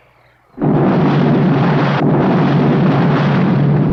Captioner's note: bomb exploding